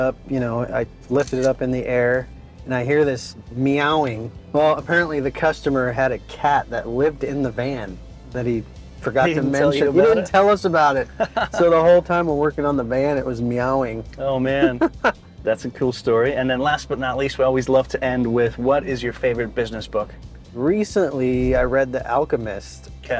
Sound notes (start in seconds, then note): 14.6 laughs